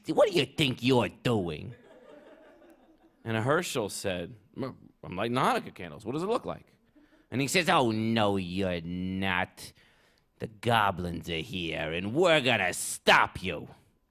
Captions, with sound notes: what do you think you're doing?" [laughter] And Herschel said, "I'm-I'm lighting Hanukkah candles. What does it look like?" And he says, "Oh, no, you're not. The goblins are here and we're gonna stop you."